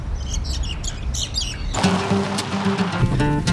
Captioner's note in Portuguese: Pássaros